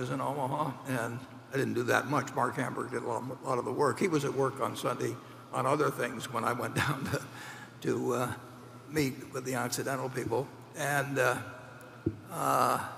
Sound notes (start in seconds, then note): 7.4 laughs